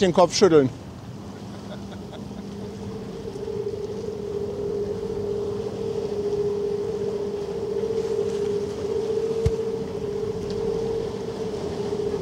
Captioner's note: laugh